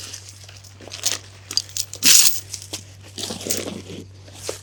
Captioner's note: chain rattling